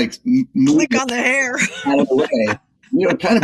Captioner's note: laugh